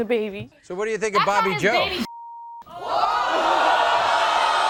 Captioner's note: beep